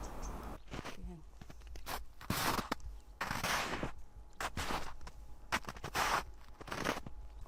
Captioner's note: the sound of stepping on snow has changed